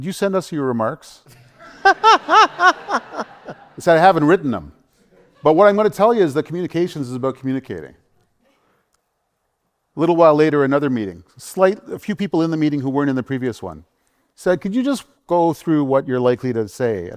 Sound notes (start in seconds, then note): 1.3 laughter